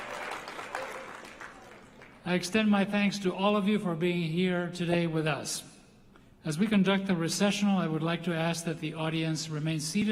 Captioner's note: applause